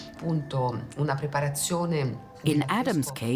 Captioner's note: in Italian